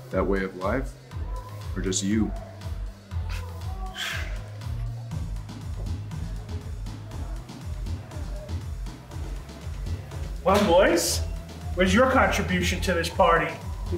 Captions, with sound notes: - That way of life or just you? (chuckles) (sighs) (upbeat music) - Well boys, where's your contribution to this party?